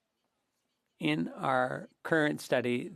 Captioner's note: speaking French